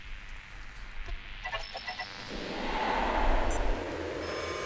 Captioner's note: whooshing